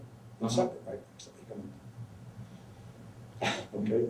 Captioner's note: laughs